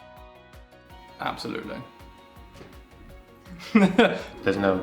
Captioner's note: laughs